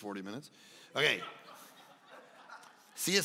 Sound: congregation laughing

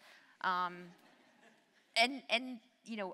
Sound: audience laughs

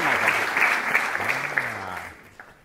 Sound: applause & Whooping

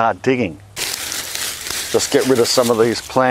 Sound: rustling

